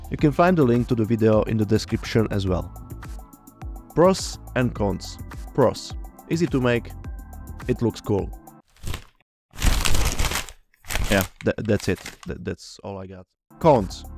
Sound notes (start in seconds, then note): 8.6 turning page; 9.5 less turning pages